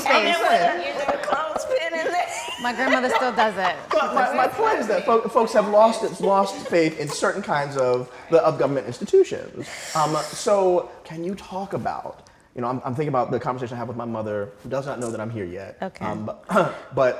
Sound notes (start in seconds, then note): 1.5 voices clamoring